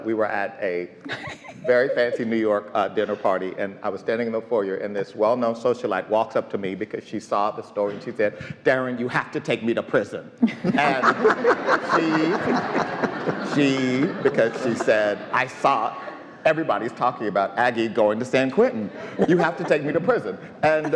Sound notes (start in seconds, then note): 10.5 all laughing